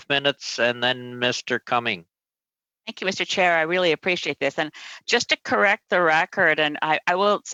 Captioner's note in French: voix de l'interprète; voix de l'interprète; voix de l'interprète